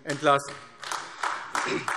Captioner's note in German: Beifall AfD